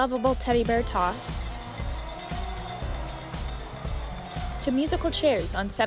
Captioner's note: cowbells jingling